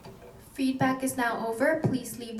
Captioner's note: woman On Intercom